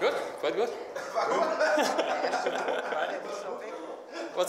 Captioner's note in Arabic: ضحك